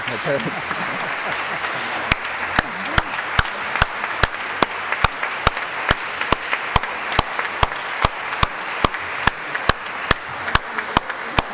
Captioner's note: applause